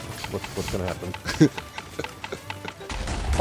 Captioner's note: chuckles; many explosions